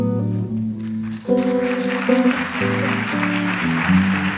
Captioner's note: audience applauds